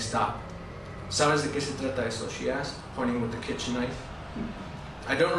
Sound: spanish

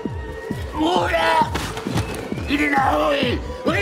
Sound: shouting

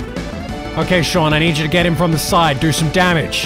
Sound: none

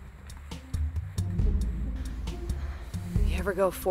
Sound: pants gently

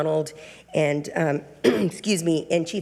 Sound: clears throat

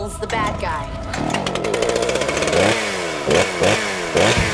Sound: chainsaw revving

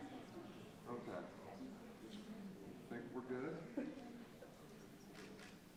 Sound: people chattering indistinctly

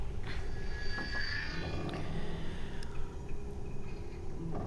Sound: computer clicks and whines

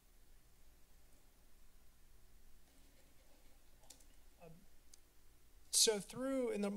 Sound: silence

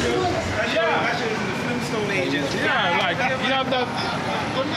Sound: people chattering

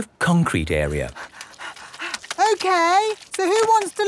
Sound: panting

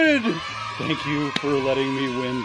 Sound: crowd cheering

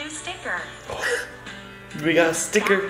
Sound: gasp

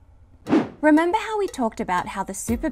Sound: air whooshing

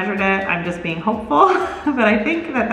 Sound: laughs

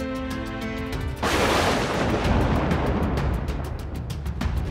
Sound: thunders

